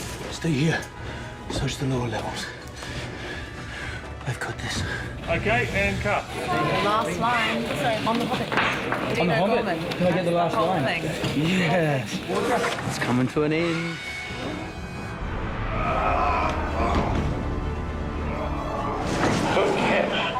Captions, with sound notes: Stay here. Search the lower levels. I've got this. Okay, and cut. Last line on The Hobbit. -Dean O'Gorman. -On The Hobbit? -I get the last line. -Whole thing, whole thing. Yes, it's coming to an end. [GRUNTING]